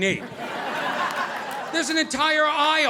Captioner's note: audience laughing